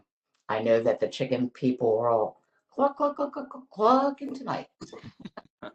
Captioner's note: laughter